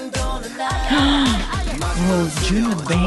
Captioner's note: gasp